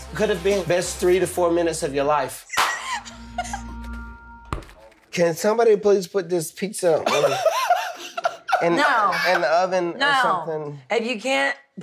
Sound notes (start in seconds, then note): 2.5 girls laughing; 7.0 laughing